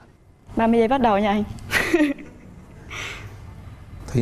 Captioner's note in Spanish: risas